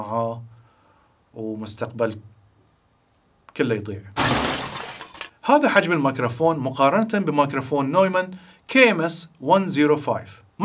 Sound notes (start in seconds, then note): 4.1 crashing and shattering noises